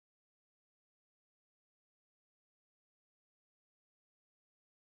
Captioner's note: none